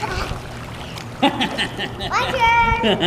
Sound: laughing

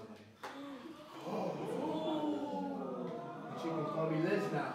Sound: audience gasps and oohs

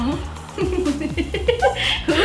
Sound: giggles

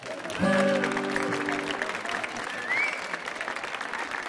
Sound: audience applauds

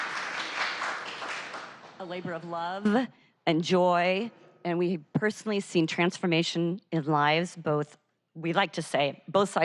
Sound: applause

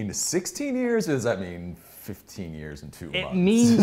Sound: laughs

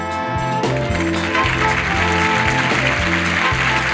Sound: audience clapping

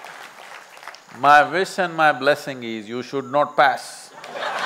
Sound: laughter/Applause

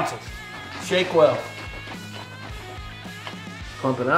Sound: shaking mixture

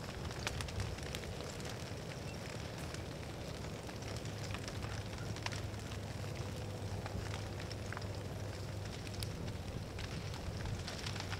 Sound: wildfire crackling and sizzling

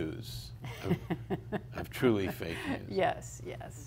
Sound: laughing

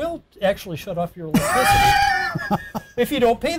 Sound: laughing

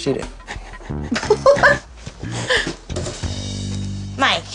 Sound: laughs

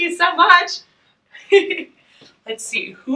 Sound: laughing

